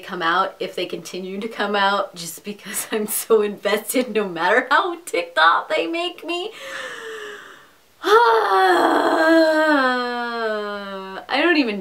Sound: groan/Sigh

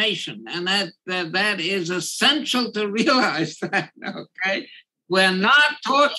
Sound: laugh

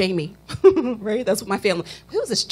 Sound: chuckle

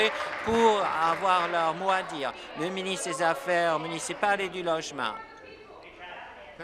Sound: applause

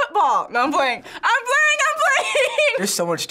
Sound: laughs

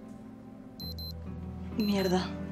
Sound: cell phone alarm

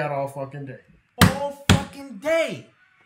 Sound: hitting the table

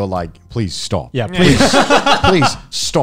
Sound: laugh

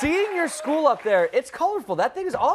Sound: cheers and applause

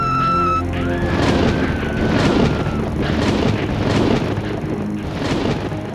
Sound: deep rumbling; continued screaming

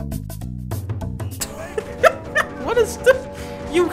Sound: Dunkey laughs

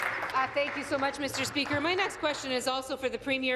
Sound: applause

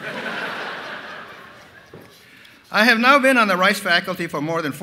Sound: laughter

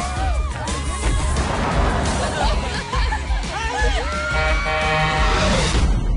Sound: horn honking

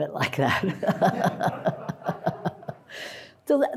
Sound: audience laughs

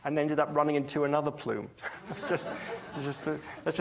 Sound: audience laughs

